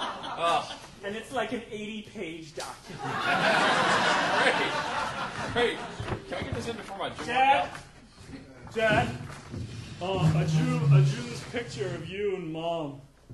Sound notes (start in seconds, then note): 3.0 audience laughing